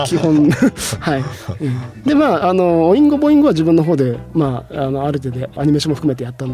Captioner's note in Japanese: 笑い